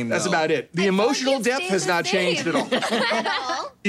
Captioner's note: laughing